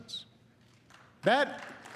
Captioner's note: applause